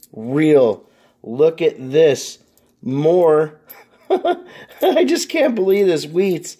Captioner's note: laughs